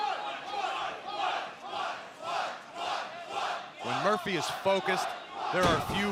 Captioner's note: fans chanting